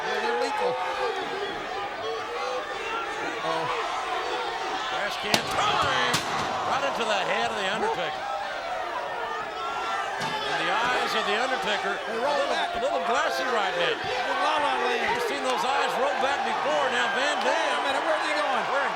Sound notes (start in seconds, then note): 2.1 crowd chanting; 5.3 steel clanging; 18.3 crowd cheering